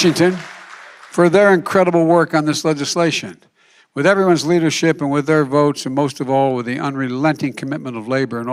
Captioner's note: applause